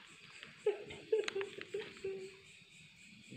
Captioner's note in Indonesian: menangis